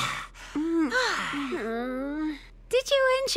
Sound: belches

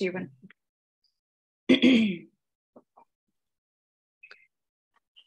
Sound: clears throat

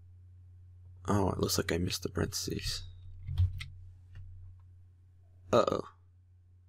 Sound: typing

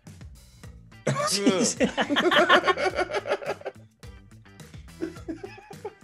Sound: laugh

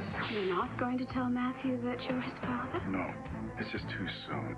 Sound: none

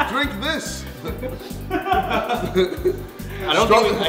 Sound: laughing

